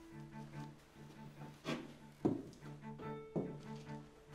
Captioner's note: footsteps clomping